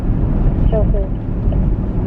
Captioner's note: woman on phone